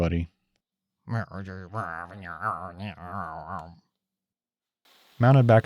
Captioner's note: Box of Shame grumbling